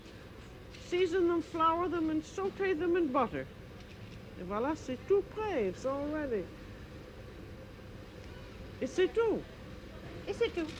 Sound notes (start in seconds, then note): 4.1 conversing in french